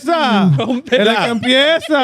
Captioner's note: speaking In Foreign Language